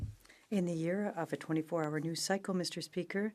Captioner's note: speaking French